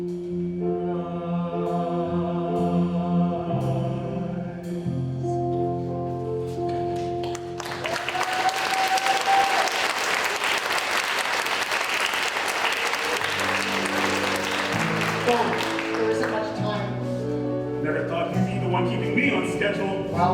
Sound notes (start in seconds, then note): 7.2 applause